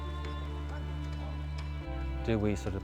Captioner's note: hammering